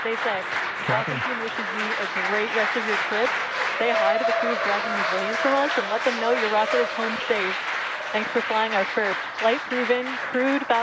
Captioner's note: applause